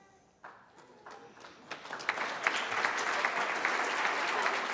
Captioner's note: applause